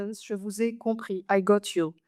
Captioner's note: speaks French